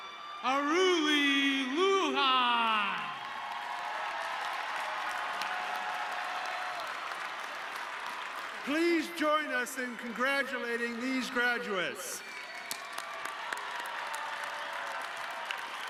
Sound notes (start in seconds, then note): 3.6 audience cheering; 12.2 audience cheering